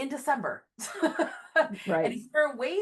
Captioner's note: laughs